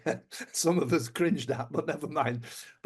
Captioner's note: laughs